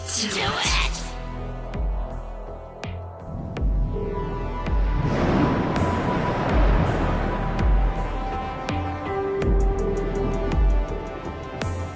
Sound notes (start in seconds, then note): 6.1 rolling thunder